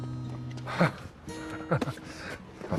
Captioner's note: CHUCKLlNG